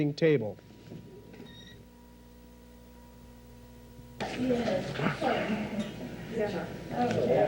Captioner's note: people talking